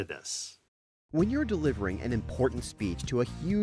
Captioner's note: voiceover